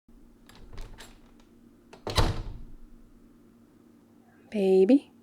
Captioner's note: door opens and closes